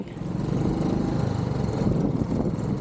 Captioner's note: motorbike engine